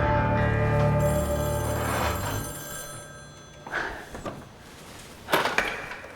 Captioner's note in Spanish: Suena el teléfono